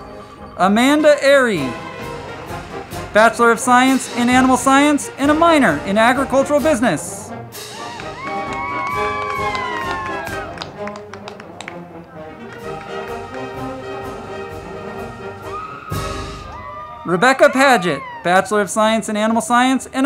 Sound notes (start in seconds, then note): 7.6 crowd clapping and cheering; 7.7 band music